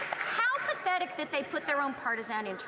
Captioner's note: some Applause